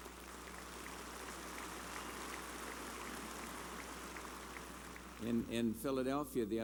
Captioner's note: applause